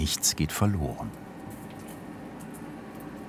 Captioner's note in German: Leises Rauschen